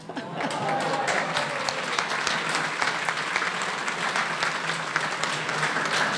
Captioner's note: audience murmuring and applauding